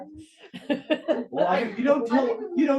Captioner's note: student chuckles